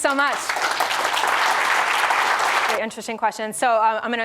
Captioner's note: audience clapping